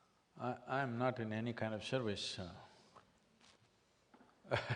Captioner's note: laughs